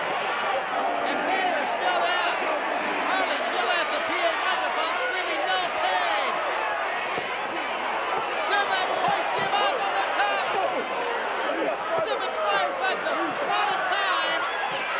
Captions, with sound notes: and Vader's still down. Harley still has the PA microphone, screaming "No Pain." (audience indistinct yelling) Simmons hoisting him up on the top. Simmons just about out of time.